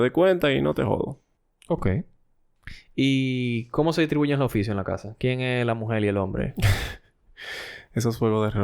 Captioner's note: laughs